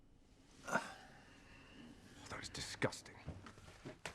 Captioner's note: Rob groans